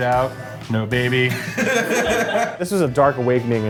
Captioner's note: laughter